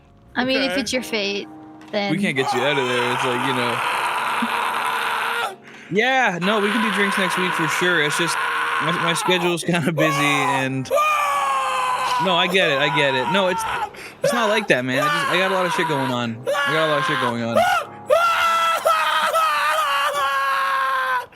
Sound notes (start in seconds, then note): 4.0 wails; 10.9 continues wailing; 18.1 continues wailing